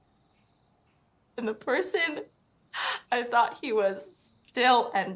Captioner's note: shaky voice